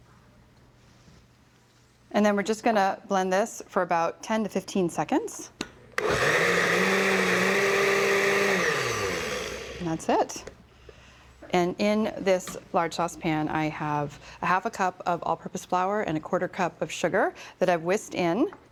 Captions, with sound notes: And then we're just going to blend this for about ten to 15 seconds. (blender whirring) And that's it. And in this large saucepan, I have a half a cup of all-purpose flour and a quarter-cup of sugar that I've whisked in.